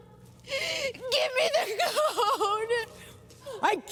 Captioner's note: voice breaking